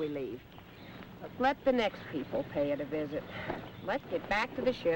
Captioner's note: sighs